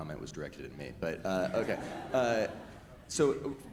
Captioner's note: audience laughs